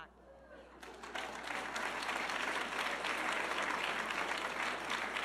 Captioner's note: audience clapping